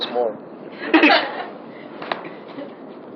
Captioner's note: giggles